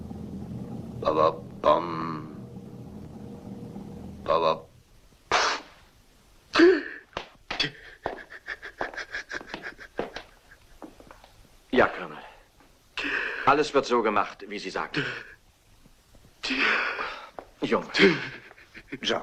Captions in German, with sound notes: ...dit-dit, dae... ...dit-dit... [sobs] Aye, Colonel. It'll be done exactly as you've said. Oh, laddie.